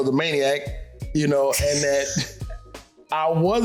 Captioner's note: snickering